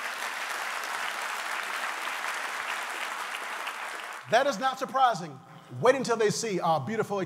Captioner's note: applause